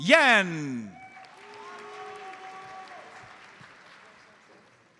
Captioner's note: audience applauds